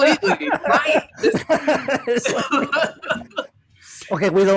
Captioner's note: laughter